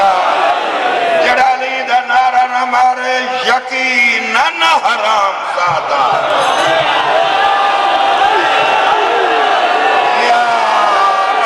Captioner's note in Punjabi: ਤਾੜੀਆਂ